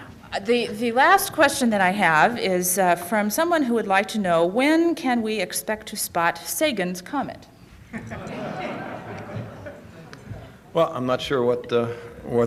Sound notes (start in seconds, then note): 7.9 laughter